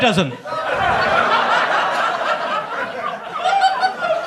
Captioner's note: audience laughs